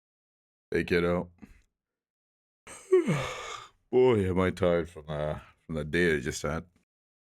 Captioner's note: yawn